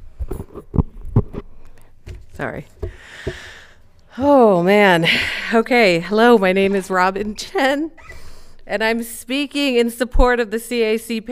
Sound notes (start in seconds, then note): 3.0 sighs